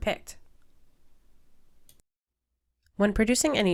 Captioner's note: silence